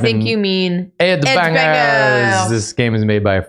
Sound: french voice

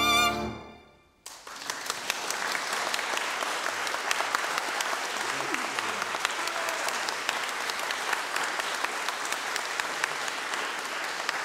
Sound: appluase

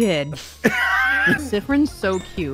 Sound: wheeze

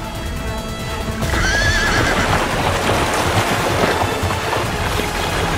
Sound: horse neighing

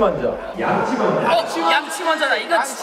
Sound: all shout out brush first

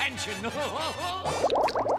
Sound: laughing

